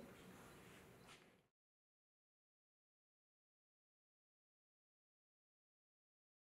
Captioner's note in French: silence